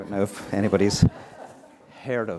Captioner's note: laughter